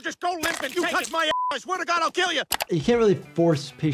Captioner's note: beep